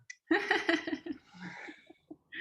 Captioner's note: laughter